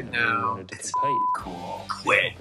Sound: beep

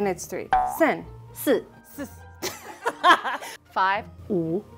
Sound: speaking in mandarin

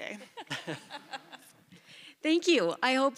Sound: laughter

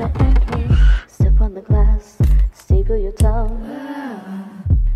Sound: ahh

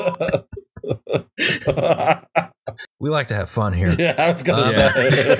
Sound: laughter

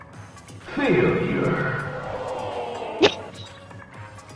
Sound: via Discord soundboard; short chuckle

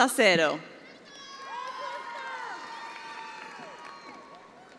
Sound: attendees applauding

